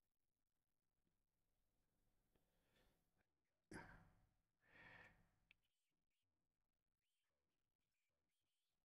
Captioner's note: silence